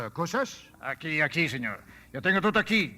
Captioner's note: speaking Spanish